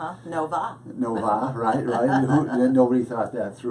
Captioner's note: laughs